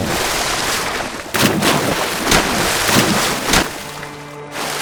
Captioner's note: splashes around in pool